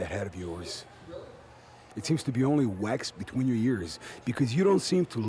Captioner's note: crowd chatter